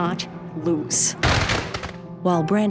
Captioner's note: gunfire